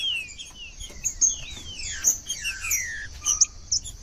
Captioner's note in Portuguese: trinca ferro cantando